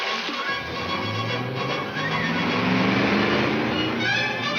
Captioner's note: car engine revs